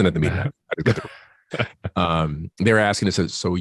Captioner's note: laughs